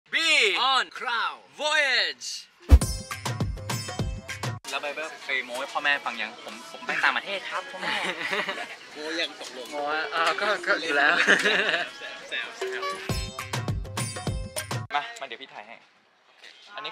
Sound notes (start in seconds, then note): 11.2 laugh